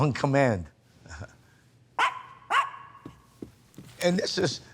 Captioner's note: dogs barking